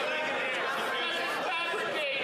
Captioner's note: yelling